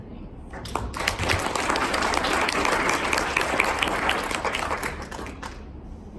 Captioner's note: applause